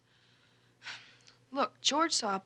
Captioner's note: sighing